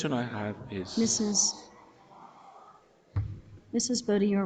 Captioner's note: audiences murmuring